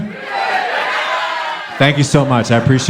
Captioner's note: crowd